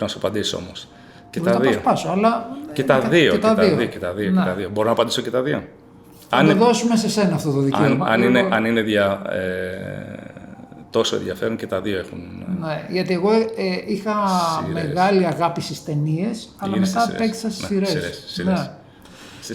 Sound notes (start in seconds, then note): 7.3 laughs